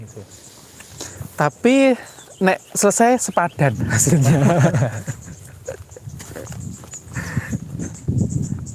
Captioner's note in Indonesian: Tertawa